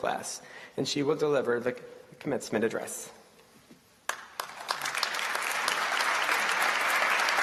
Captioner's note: applause